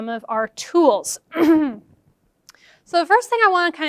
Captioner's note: clears throat